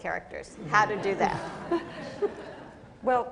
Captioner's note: laughter